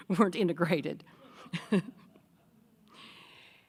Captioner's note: chuckling